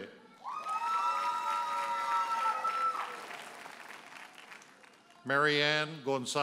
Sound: audience hollers and applauds

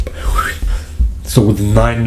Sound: whistles

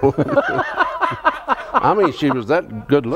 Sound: laughs

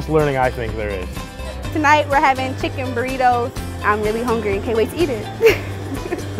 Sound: laughter

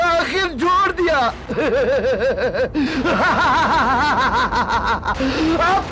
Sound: laughs

